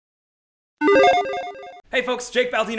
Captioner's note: logo beeps